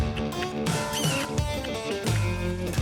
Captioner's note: calling horses